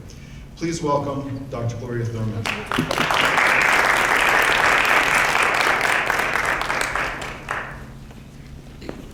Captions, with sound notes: Please welcome Dr. Gloria Thurmond. (audience claps)